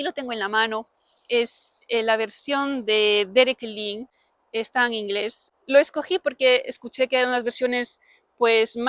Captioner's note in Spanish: está en inglés